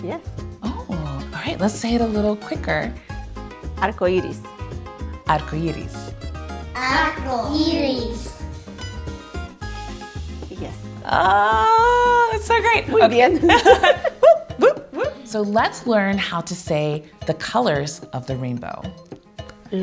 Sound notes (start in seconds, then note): 13.3 both laughing; 14.2 whooping